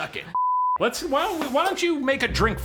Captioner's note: beeping